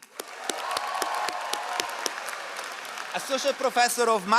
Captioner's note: all applauding